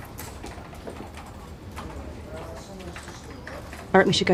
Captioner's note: people chattering